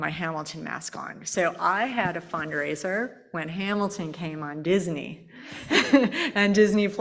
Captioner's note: laughs